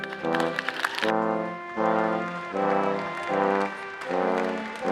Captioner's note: all applauding